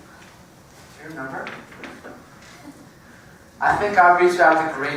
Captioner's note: laugh